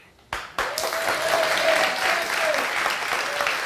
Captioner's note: crowd applauding